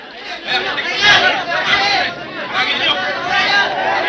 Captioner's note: people clamoring